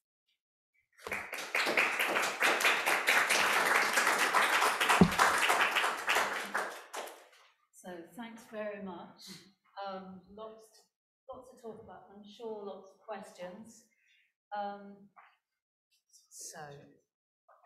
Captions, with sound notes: (crowd applause) - So thanks very much. Lots, lots to talk about. I'm sure lots of questions.